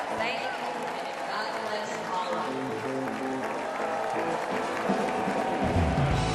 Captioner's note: cheers and applause